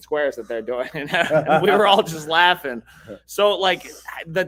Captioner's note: both laughing